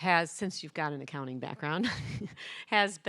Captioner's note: chuckles